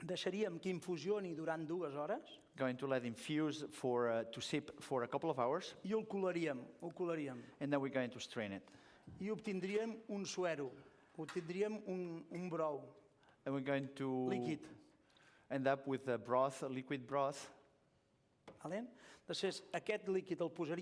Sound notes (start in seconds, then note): 0.7 non-english speech; 6.5 non-english speech; 10.5 non-english speech; 14.9 non-english; 19.5 non-english speech